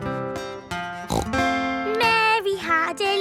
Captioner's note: playing guitar; snorts